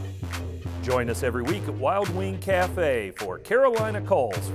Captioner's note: voiceover